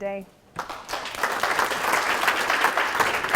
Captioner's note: applause